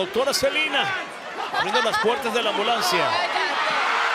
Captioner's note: Rhea laughing; crowd cheering